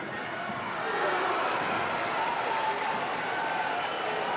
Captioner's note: crowd cheers